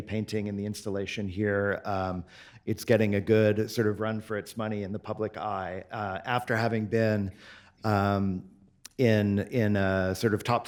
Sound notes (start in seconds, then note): none